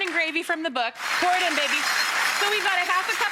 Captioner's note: audience applauds